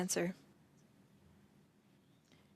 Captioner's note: speaking French